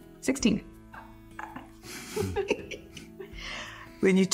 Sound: laughter

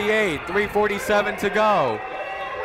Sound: whistle blowing

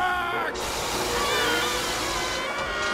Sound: screaming

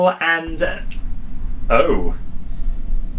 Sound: war noises

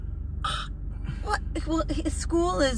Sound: scoffs

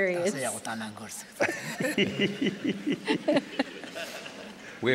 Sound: laughter

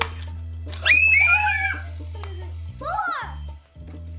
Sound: screams

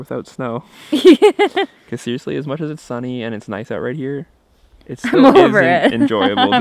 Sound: laughing

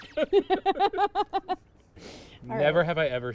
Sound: laughing

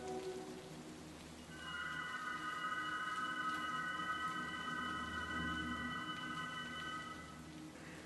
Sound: whistling

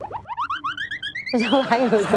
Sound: laughs

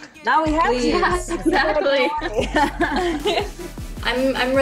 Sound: all laughing

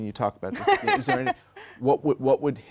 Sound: laughter

